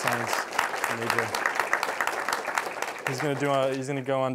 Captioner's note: applause